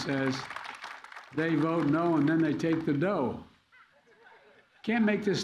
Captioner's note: laughter